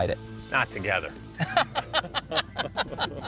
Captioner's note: laughter